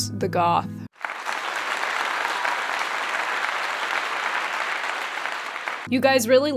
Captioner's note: applause